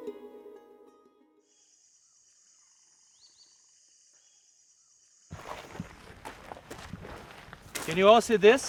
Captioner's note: birds chirping